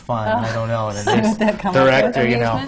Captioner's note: laughs